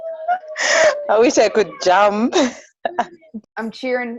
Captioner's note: laughs